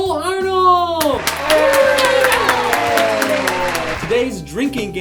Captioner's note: everyone cheering